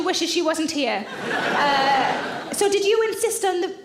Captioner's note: audience laughing